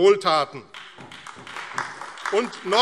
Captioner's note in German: Beifall AfD